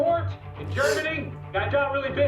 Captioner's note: gasps